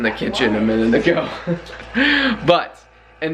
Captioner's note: chuckling